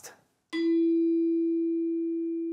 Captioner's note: long tone